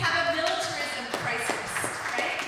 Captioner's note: applause